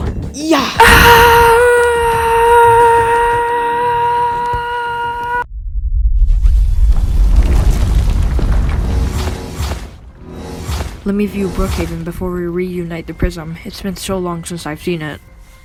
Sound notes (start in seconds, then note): 6.4 portal noise plays as a portal opens; 7.7 Portal noises play as Shards, Max and Nate exit the portal